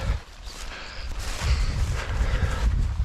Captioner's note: none